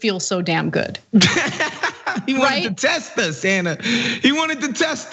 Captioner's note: laugh